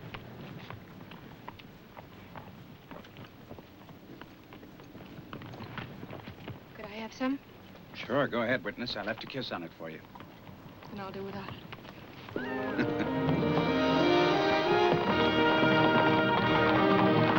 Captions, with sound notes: Could I have some? Sure, go ahead, witness. I left a kiss on it for you. And I'll do without it. [CHUCKLES] [DRAMATIC MUSIC]